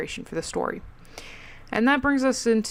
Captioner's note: breathes into mic again